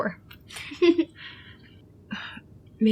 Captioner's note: Esther laughs